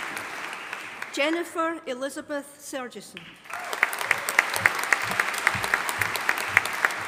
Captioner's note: audience applauding